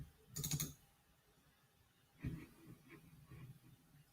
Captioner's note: mouse clicking